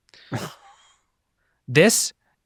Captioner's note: chuckles